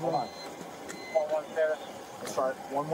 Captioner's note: radio chatter